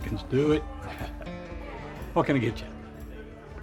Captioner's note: Ramiro chuckles